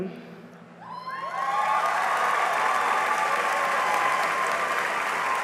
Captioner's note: cheering and applause